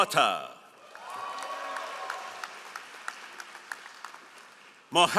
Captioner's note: all applauding